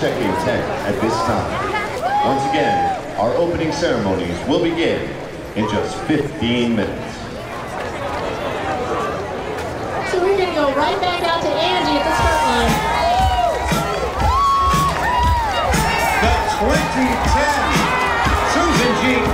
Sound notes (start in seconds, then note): 8.4 background chatter; 14.0 upbeat music; 14.8 cheering